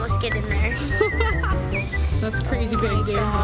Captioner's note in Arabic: يضحك